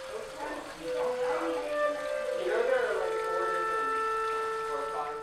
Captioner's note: mournful music; water running